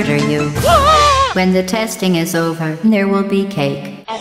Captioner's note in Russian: none